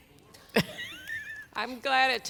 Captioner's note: laughs